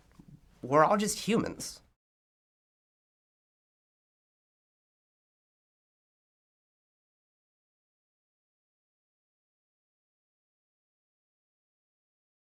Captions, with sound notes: We're all just humans. (silence)